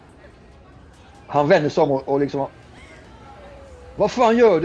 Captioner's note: as Rastafari